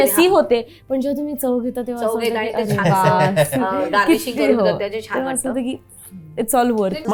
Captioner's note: gasps